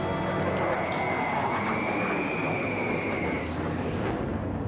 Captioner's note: jet engines roaring